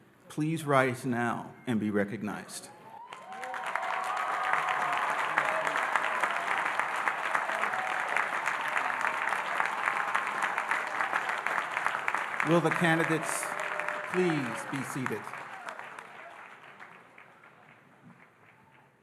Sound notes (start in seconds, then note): 3.0 audience cheering and applauding